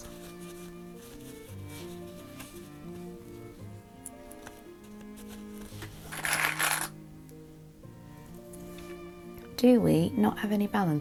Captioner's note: clips rattling